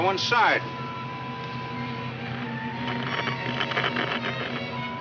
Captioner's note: radio crackles